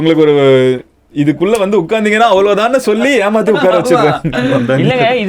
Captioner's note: laughs